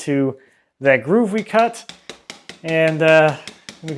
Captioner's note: mallet pattering